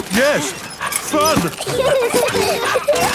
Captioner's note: straining; peppa and george laughing